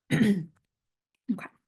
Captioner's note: clears throat